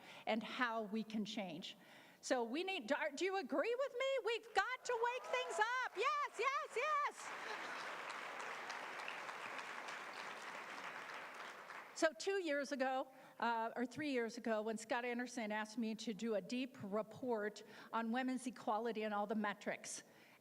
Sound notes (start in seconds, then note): 7.9 applause